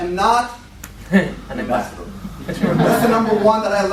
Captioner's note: laughter